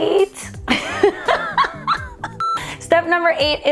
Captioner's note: woman laughs